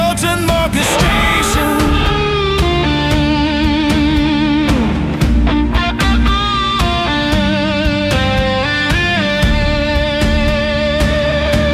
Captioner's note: final sound of a rocket engine igniting, then fading into the silence of space